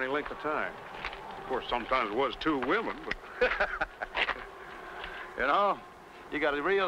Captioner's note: laughs